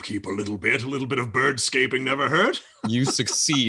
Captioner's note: laughs